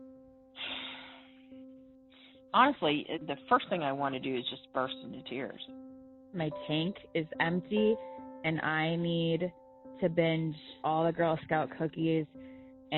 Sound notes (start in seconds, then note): 6.5 woman on Phone